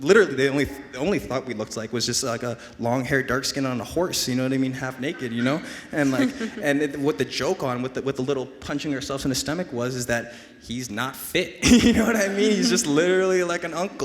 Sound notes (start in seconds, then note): 5.2 laughs